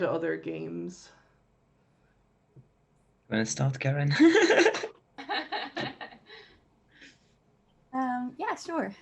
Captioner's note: laughs